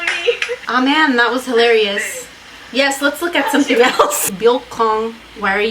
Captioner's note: laughs